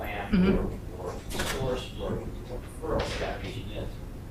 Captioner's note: voice fades